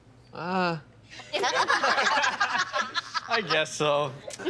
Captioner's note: all laughing